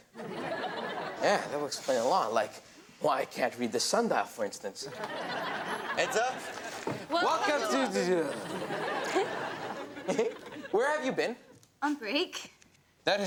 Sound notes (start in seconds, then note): 0.2 audience laughs; 4.9 audience laughs; 9.1 Robyn giggles; 9.9 Ben mock-giggles